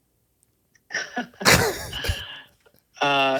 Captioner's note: laughing